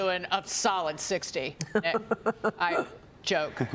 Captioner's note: laughter